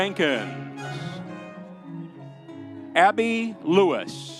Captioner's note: audience cheering